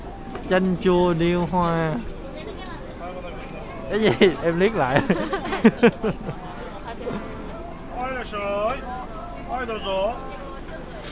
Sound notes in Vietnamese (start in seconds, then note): 4.8 Tiếng cười